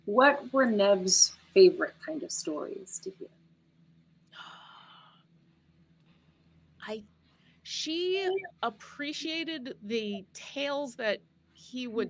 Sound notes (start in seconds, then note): 4.4 sighs